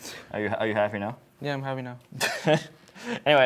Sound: laughs

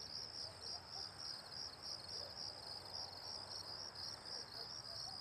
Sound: crickets chirping

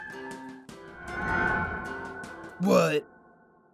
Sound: Distant screams of Red Jeans' Team

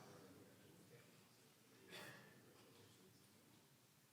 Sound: crowd talking

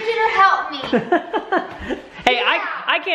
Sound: laughs

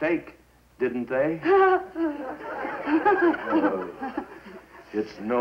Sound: nervous laughter

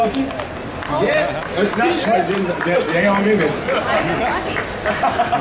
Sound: audience chattering

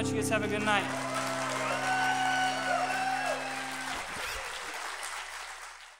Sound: applause

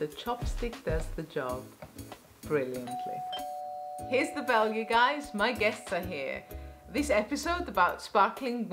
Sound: doorbell

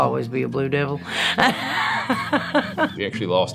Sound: laughing

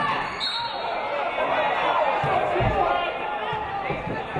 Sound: referee blows whistle

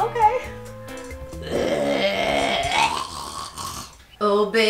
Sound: Marlene growls

